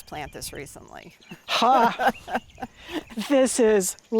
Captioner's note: laughs